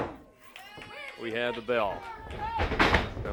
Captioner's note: bell ringing